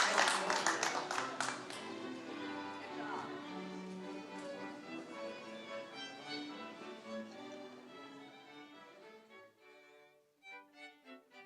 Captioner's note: applause